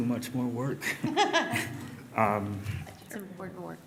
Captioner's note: laughter